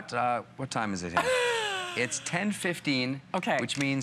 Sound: laughter

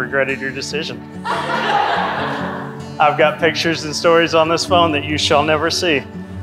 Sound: everyone Laughing

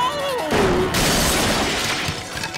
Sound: crashing

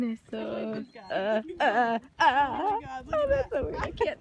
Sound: more freaking out noises

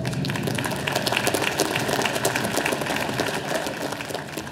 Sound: audience applauding

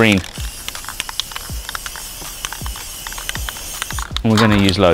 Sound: spray can clicking

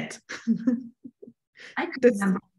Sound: laughter

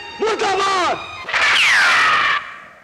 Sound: gunshot

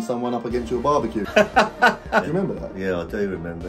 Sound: father laughing

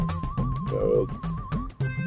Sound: burp

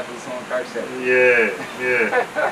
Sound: laughs

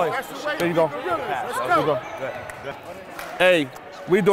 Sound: overlapping chattering

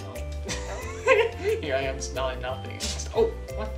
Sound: laughs

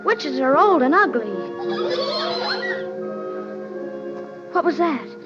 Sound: Munchkins giggling

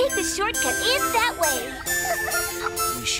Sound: triplets giggle

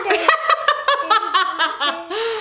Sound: laughs

